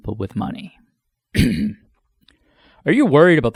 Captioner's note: clears throat